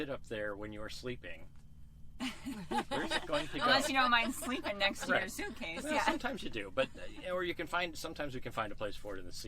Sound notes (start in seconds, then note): 2.2 laughing